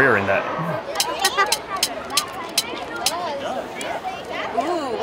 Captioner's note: crowd chattering; spinning wheel tapping